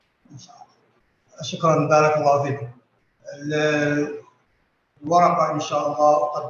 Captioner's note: non-english speech